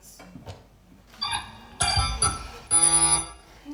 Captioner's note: TARDIS beeps